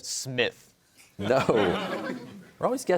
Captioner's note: laughter; chuckles